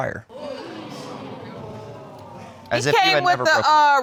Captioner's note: audience exclaiming